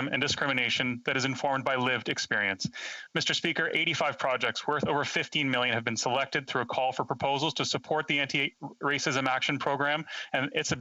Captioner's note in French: voix de l'interprète